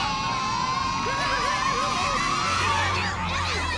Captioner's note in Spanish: gritan